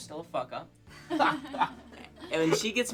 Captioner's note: laughing